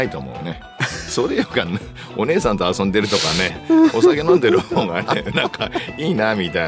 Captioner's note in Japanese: 鼻息